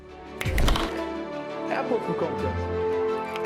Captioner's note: snaps